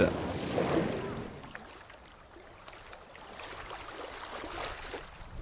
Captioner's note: waves gently crashing